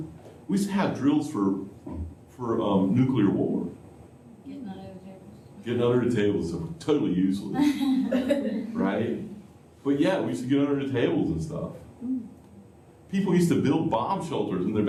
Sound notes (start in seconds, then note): 7.6 laughter